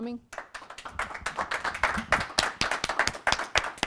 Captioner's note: applause